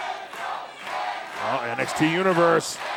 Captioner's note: fans chanting